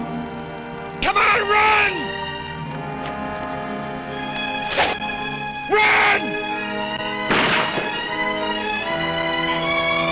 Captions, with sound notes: Come on, run! (arrows whooshing) Run! (gunshots blasting)